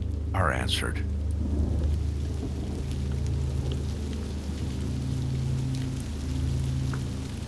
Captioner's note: rainfall pattering